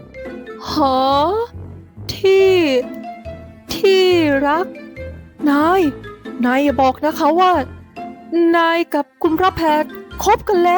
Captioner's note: Jen, finally finding her voice, a stunned whisper